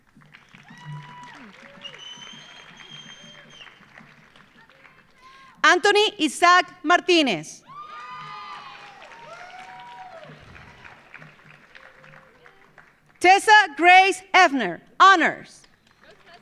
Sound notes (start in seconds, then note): 0.0 audience applauding; 0.3 audience cheering; 7.6 audience cheering; 7.7 audience applauding; 15.6 audience applauding; 16.1 audience cheering